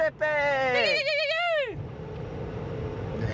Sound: yelling

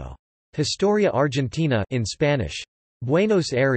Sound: in Spanish

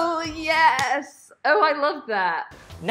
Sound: hands clapping

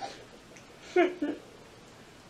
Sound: chuckles

